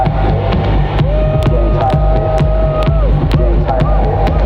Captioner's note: cheering